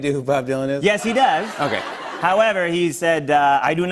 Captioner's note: laughter